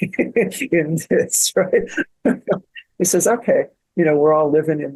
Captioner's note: laughing